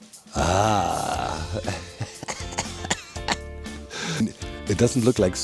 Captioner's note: chuckles